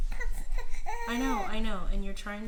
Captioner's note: baby cries